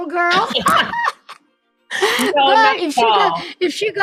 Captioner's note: both laugh